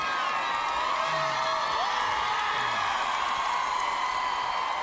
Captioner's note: applause and cheering